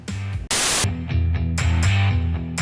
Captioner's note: rock music; static